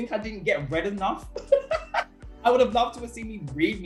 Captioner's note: laughter